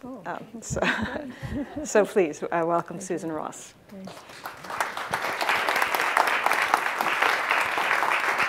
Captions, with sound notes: (laughs) So please, welcome Susan Ross. (audience applauds)